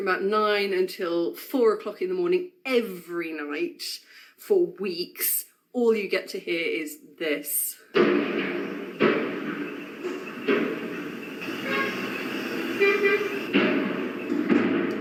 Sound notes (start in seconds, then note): 7.9 loud metallic clanking; 8.0 horns beeping